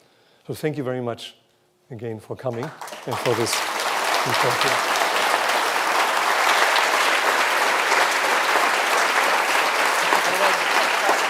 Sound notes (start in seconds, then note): 4.5 applause